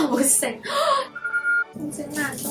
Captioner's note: gasp